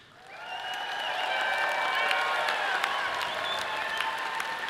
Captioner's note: audience applauds and cheers